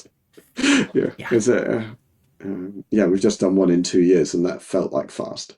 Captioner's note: laughing